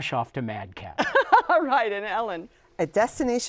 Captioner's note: laughs